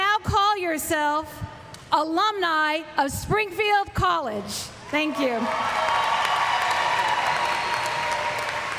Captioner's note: applause; cheers